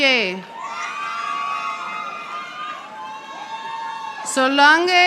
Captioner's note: audience applauding